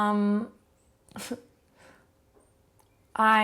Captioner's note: quietly laughs